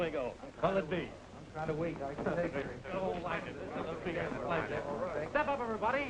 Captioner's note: overlapping chatter